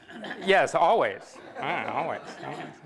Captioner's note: laughter